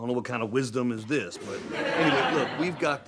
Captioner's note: audience laughs